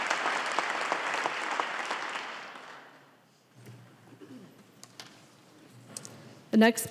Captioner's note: applause